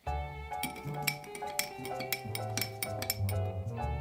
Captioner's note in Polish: dźwięk mieszania kawy